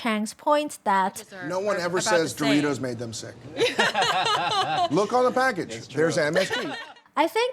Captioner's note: laughter